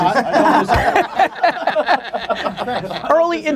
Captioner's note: group laughter